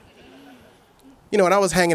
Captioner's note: audience chuckles